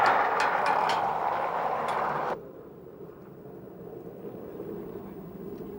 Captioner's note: airplane engine roaring